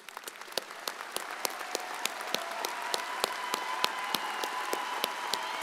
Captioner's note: audience cheers and applauds